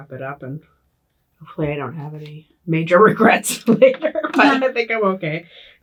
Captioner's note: laughs